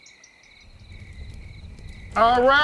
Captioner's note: fire blazing